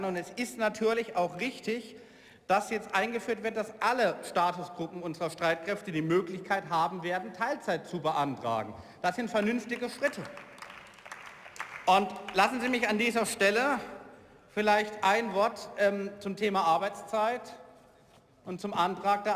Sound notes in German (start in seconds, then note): 10.7 Beifall